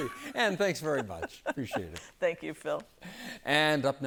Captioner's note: laughter